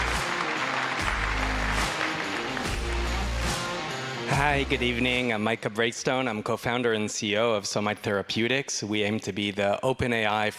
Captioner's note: applause